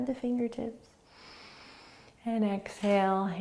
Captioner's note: inhaling